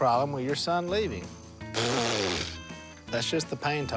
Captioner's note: blows raspberry